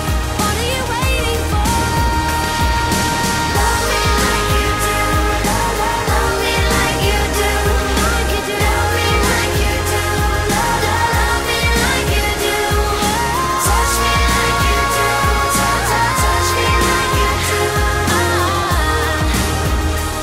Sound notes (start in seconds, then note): 18.3 aah